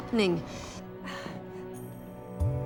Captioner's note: sighs